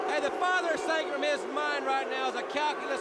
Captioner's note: crowd chatter